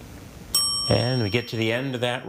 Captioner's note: bell dinging